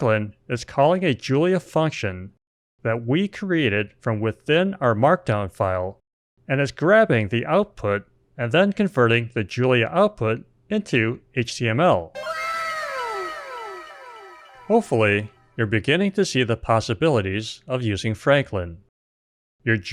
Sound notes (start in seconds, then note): 12.1 anime "wow!" sound effect